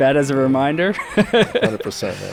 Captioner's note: laughing